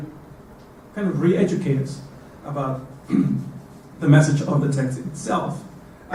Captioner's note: cough